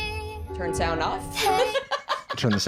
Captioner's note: laughs